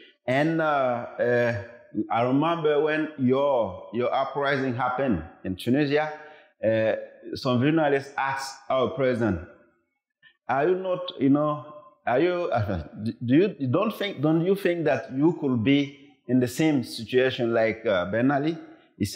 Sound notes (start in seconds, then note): none